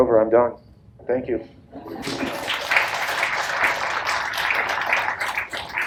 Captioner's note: audience applauds